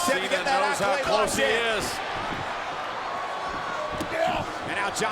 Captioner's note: footsteps plodding